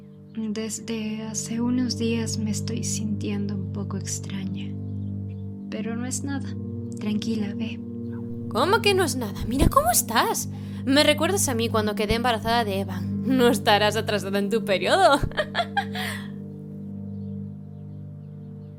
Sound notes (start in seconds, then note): 14.9 laughs